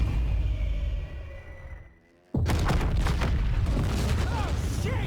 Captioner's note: explosions